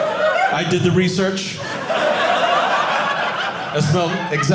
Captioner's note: audience laughing